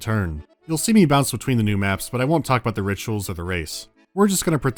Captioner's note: none